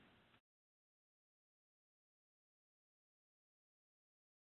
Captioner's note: silence